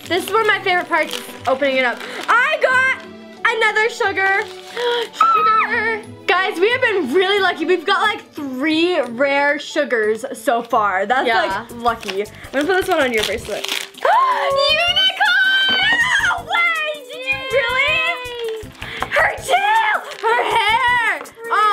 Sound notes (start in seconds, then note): 14.3 gasps